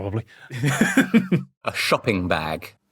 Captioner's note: laughs